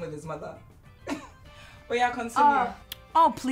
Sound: Efosa chuckles

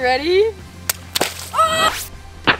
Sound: balloon explodes

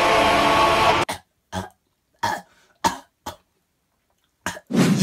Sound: clears throat and coughs

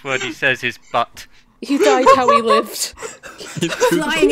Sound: laughter

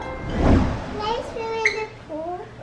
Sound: screen whooshes

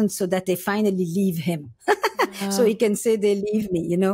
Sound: laughs

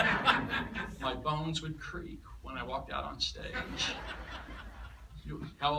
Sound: laughter; laughter

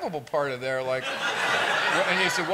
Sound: laughter

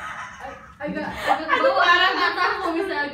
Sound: laugh

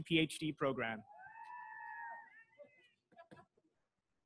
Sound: crowd cheering

